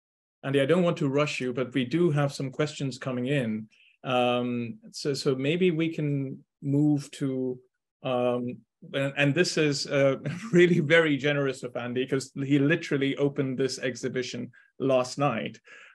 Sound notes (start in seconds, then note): 10.2 chuckling